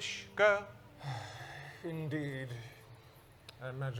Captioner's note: sighs